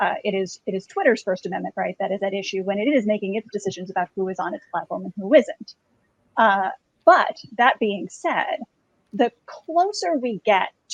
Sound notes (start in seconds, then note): none